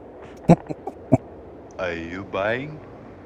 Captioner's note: chuckling